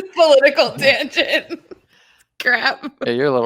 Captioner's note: laughing